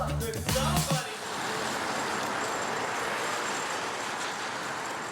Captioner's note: traffic droning